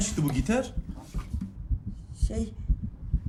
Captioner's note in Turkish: kalp çarpintisi sesleri̇